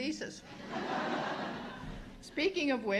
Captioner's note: laughter